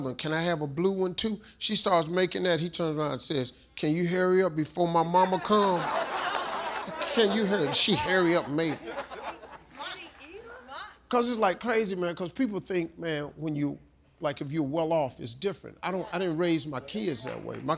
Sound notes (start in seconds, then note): 5.2 audience laughs; 9.3 audience laughing